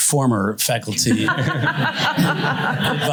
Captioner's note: laughter